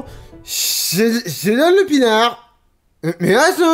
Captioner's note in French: voix de mec bourré